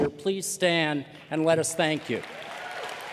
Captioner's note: cheers and applause